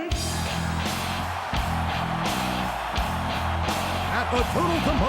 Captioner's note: driving rock music; crowd cheering